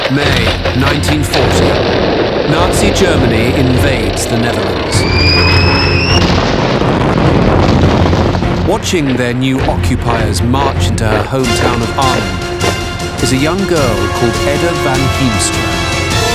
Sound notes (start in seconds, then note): 4.2 bomb whistling; 7.2 explosion booms; 16.1 dramatic music